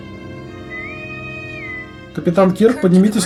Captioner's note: intercom whistles